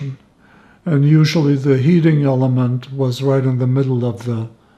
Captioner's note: none